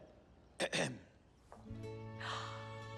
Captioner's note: clears throat